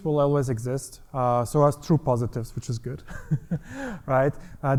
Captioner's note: laughs